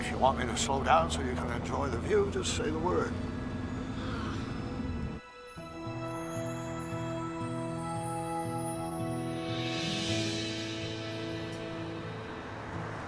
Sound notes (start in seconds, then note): 4.1 Ryann groans